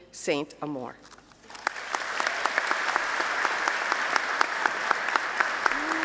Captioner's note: applause